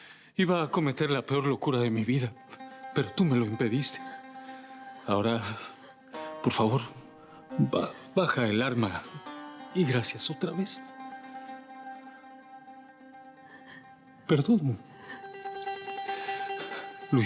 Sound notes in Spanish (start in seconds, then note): none